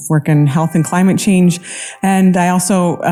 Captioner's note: siren wailing